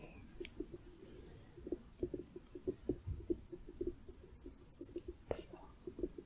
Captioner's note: gentle tapping